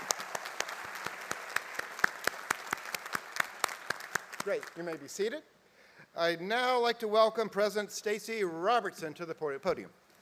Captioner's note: applause